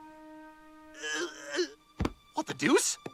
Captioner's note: Stewie groans